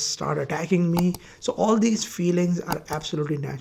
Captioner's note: mouse clicking